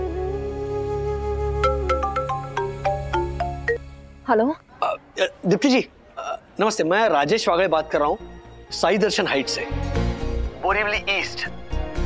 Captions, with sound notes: [phone rings] - Hello. - Ms. Dipti... I'm Rajesh Wagle from Sai Darshan Heights, Borivali East.